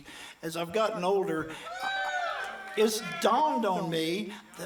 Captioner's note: audience cheers